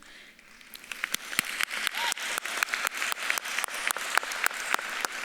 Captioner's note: audience claps and cheers